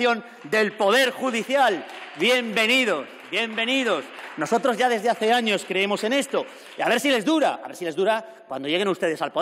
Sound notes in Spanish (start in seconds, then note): 0.0 Aplausos